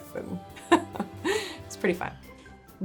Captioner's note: laughs